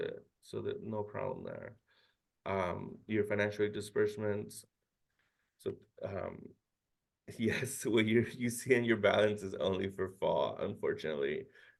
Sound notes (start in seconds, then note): 6.1 chuckles